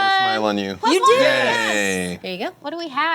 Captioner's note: cheering